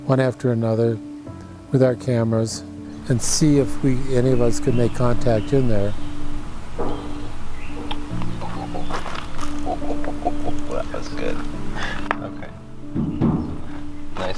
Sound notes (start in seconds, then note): 7.9 hand knocks; 8.0 birds chirp; 9.4 laughs; 12.9 hand knocks